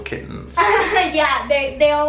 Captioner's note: laughs